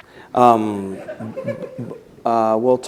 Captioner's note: laughter